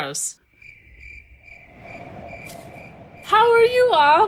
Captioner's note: crickets chirping